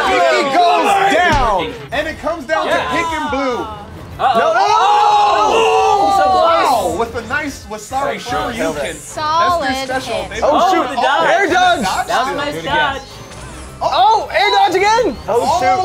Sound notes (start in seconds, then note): 4.1 opposing jeering; 4.2 cheers